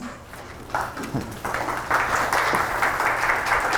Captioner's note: applause